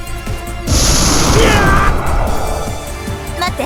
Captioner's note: pained groan